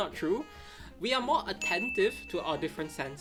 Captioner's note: graphic chimes